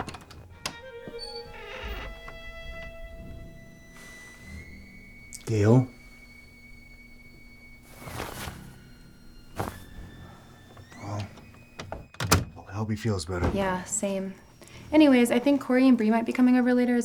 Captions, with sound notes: [door creaking open] Gale? Well, I hope he feels better. - Yeah, same. Anyways, I think Cory and Bri might be coming over later.